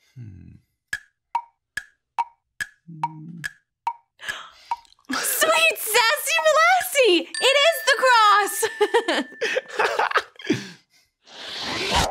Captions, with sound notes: (clock ticking) Sweet sassy molassy, it is the cross. (both giggle)